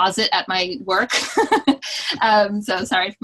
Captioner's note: laughs